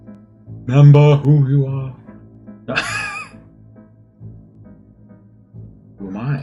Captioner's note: laughs